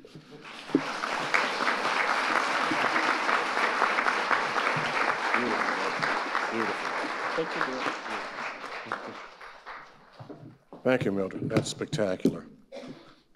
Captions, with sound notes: (audience applauding) - Beautiful, that's amazing. Beautiful. (audience applauding) - Thank you, dear. (audience applauding) -Thank you, Mildred. That's spectacular.